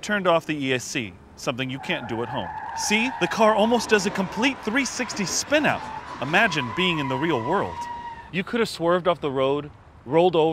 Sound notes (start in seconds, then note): 1.2 car screeching